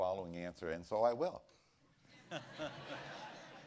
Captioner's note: laughter